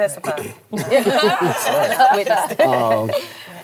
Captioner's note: all laugh